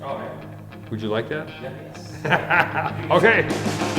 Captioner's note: laughs